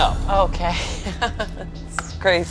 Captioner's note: laughing